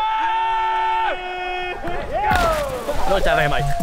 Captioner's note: screams